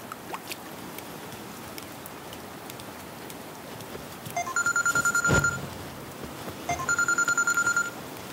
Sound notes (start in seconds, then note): 5.1 mobile ringing